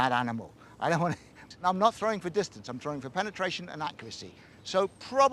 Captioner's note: chortles